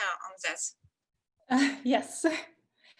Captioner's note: chuckles